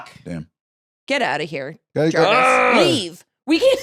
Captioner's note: groans